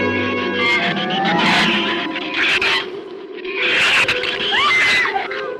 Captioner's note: shrews chatter; Ann screams